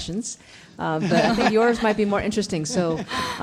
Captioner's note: panelists laughing